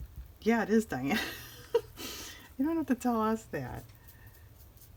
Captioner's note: laughs